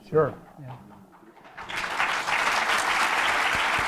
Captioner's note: applause